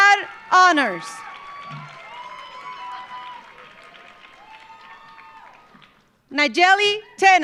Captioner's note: audience cheering; audience applauding